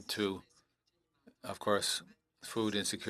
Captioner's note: speaking in French